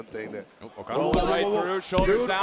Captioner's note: hands thudding